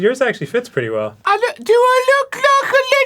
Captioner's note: arin putting on his best peppa pig accent